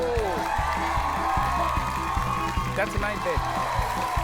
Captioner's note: applause